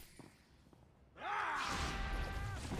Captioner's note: screaming